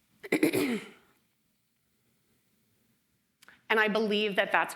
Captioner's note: throat clearing